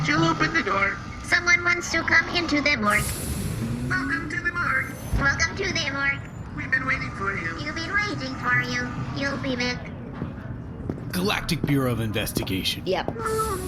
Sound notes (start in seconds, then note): 3.5 the door slides open